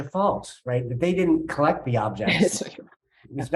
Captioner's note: chuckling